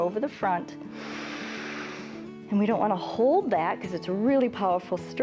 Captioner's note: inhales